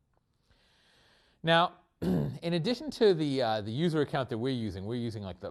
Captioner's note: cough